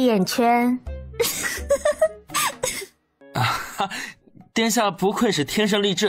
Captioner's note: laughter